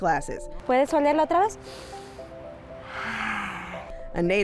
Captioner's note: speaks Spanish